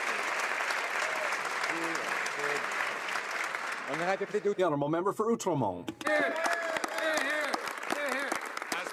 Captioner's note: some Applause